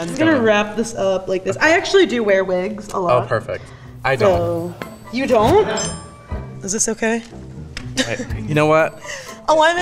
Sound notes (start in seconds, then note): 4.2 bell dings